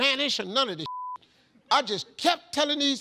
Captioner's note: beep